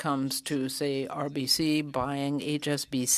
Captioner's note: speaking French